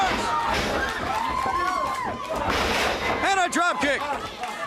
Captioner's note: crowd chatter